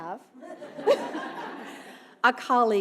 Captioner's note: audience laughing